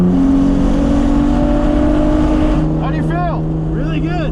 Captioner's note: car engine roaring